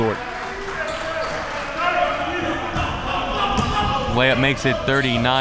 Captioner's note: audience applauding and chattering